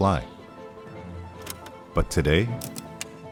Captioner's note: button clicks; switches clicking